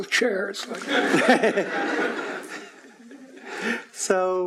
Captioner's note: laughing